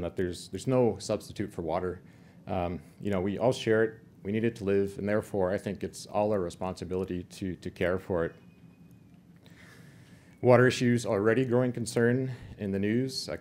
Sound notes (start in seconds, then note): none